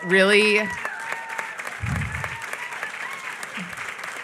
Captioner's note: applause